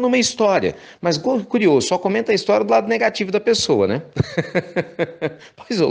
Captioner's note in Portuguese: risos